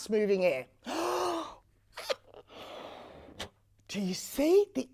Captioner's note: air blowing sounds can be heard